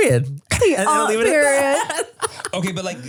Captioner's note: Manny laughs